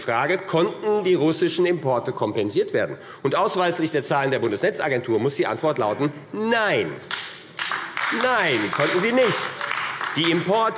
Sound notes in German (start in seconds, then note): 7.5 Beifall AfD